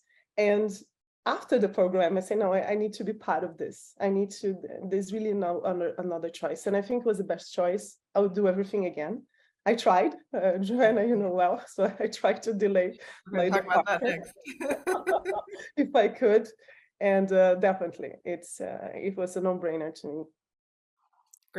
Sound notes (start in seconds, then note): 13.4 laughing